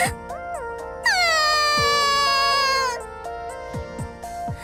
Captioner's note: sob